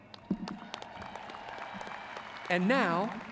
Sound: crowd cheering

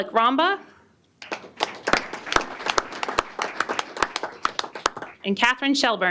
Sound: applause

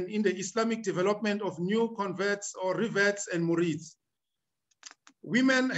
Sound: speaking arabic

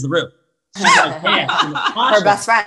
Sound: all laugh

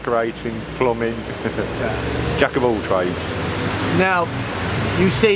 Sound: laughs

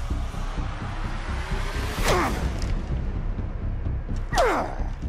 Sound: grunts

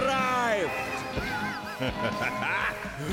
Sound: evil chuckle

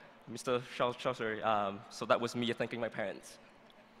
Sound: speaking vietnamese

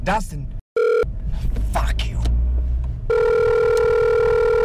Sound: phone rings

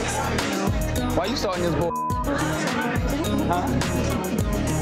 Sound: beeps

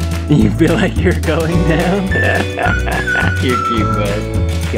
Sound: laughs

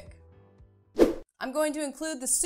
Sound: air swooshing

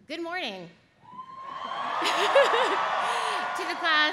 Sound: audience cheers; laughs

